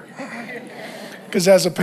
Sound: congregation laughs

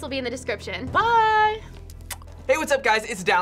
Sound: smooches

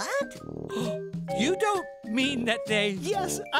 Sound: laughing

